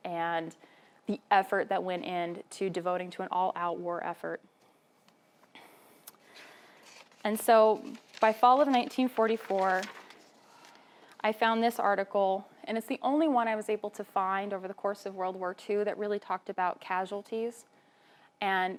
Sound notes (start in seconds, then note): none